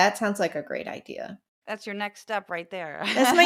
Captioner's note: laugh